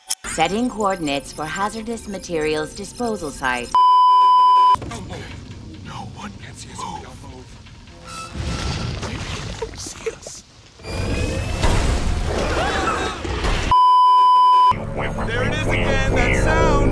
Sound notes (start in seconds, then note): 0.0 reversed ticking; 3.8 beeeeeep; 10.8 roars of incorrectness; 13.7 beeeeeep; 14.7 meme music intensifies; 16.6 dancing cockroach meme music at peak